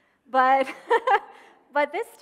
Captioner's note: laughing